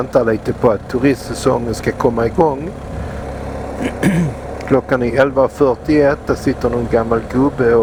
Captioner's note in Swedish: harklar sig